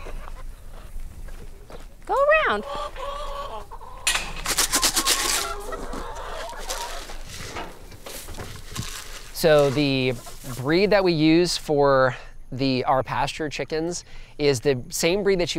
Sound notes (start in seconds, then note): 0.2 chickens clucking; 2.7 chicken feed rattling; 3.5 chickens clucking